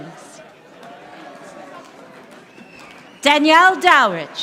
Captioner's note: audience applauding